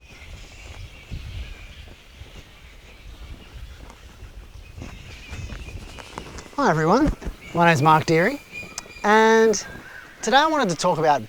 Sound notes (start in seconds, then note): 0.0 birds chirping